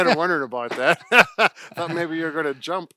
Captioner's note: laughing